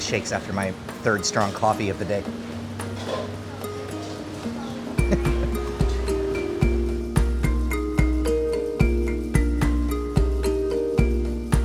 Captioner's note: laughing